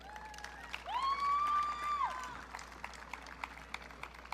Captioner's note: audience cheering